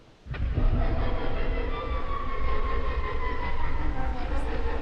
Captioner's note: rumbling eerie sounds echo